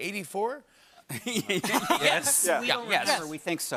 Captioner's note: laughs